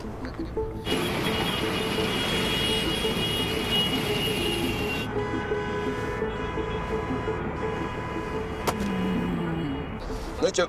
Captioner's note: cars honking